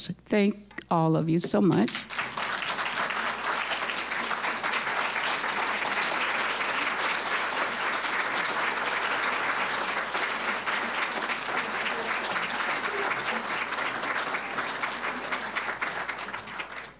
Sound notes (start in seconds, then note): 1.8 applause